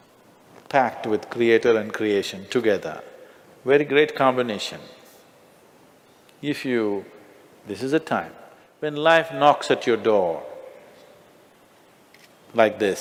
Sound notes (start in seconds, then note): none